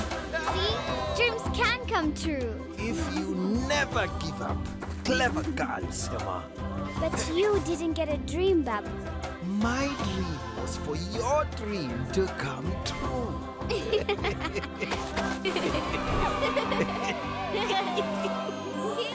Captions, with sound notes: - See? Dreams can come true! - If you never give up. Clever girl, Sema. - But you didn't get a dream, Babu. - my dream was for your dream to come true! (laughing) (children cheering)